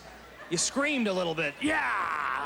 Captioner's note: roariringng